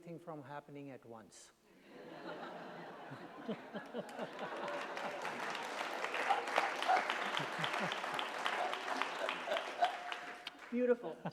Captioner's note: laughter